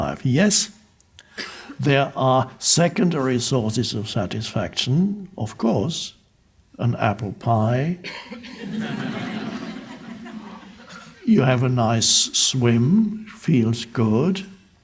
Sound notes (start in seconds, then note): 8.3 crowd laughs